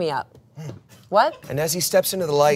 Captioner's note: hums